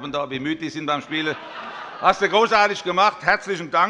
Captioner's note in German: Allgemeine Heiterkeit und Beifall